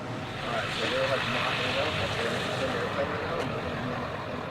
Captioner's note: people chattering